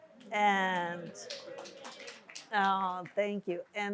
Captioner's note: audience applauds